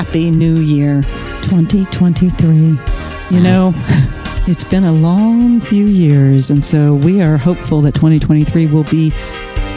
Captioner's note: guffaw